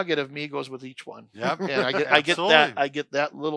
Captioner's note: laughter